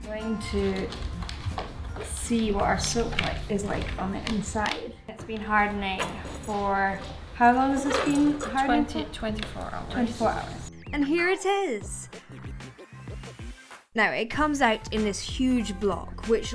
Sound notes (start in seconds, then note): 4.5 latches clicking; 12.5 upbeat music